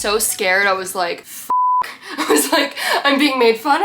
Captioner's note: beep